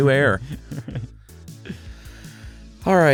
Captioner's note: laughs